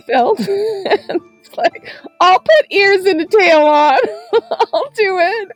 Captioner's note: laughs